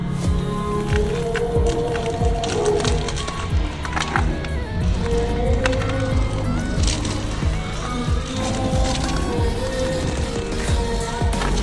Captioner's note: crunching Sound